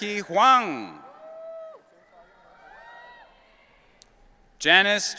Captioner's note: audience cheering